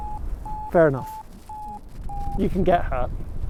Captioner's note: Vario beeps